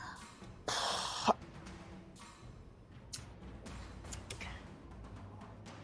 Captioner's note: intense dramatic music; Maeve exhales sharply